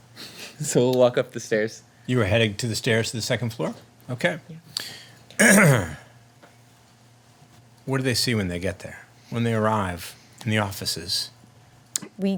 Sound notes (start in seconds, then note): 5.4 clears throat